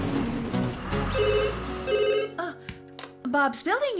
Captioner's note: phone Rings